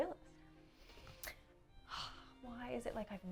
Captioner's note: sighs